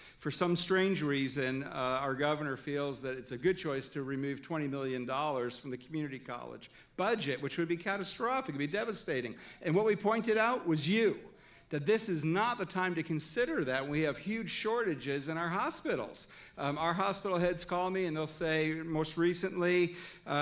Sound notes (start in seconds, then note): none